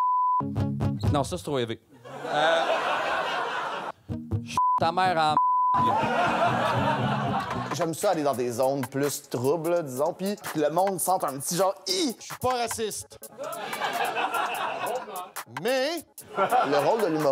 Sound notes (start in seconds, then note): 0.0 beep; 2.0 laughs; 2.7 beep; 5.8 laughs; 13.3 laughs